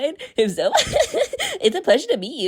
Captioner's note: Lana giggles loudly